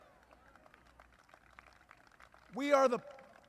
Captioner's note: applause